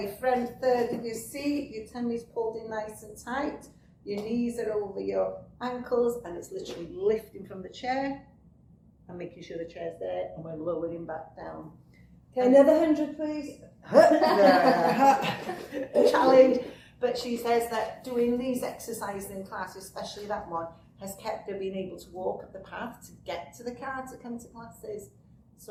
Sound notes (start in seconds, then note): 13.9 laughter